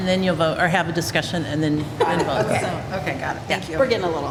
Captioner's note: laughter